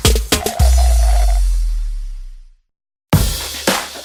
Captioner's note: slurping